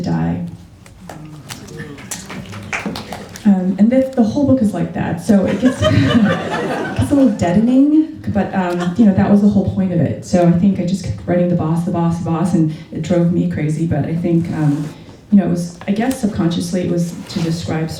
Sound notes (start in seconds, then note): 0.9 quiet applause; 5.4 laughter